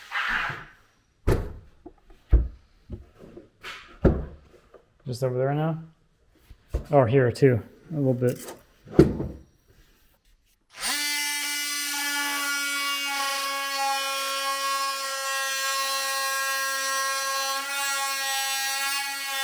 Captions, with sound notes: (board setting in place) Just over there now? Oh, here too, a little bit. (tool whirs)